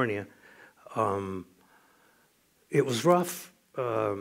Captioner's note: none